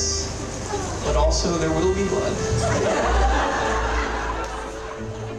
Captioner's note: laughter